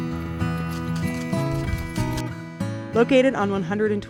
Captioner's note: horse hooves scraping